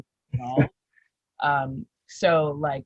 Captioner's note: laughs